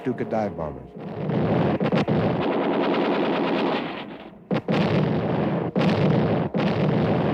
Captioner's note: explosions; gunfire